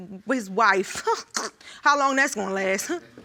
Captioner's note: scoffs